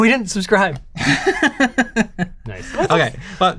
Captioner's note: laughs